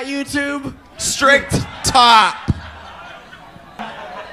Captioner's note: Willow and Daya in unison